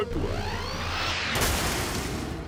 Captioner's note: explosion